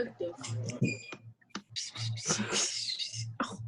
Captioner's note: aliens whispering